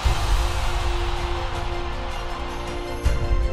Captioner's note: crowd cheering